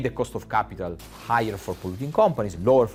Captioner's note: glass shattering